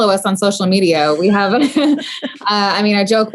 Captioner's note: laughing